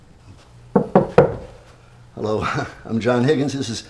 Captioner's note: knocking on door